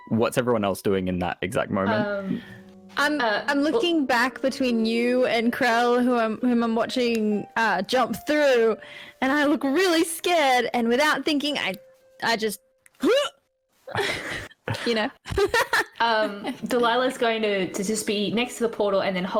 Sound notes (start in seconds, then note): 12.8 huuahh; 13.9 laughs again; 13.9 she laughs